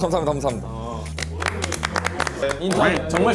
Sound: clap

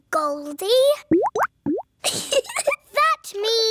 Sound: bubbling; giggles

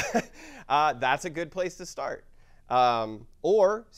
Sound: laugh

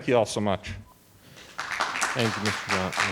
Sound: audience applauding

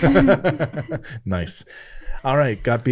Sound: laughing

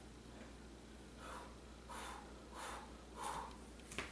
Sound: pumping-up breaths

